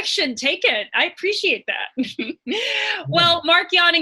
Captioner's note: laughs